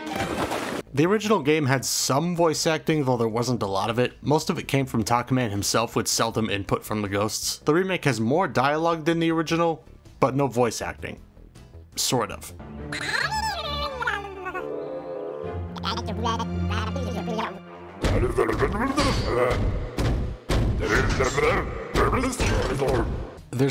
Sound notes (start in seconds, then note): 12.5 speaking foreign language; 15.7 speaking foreign language, determined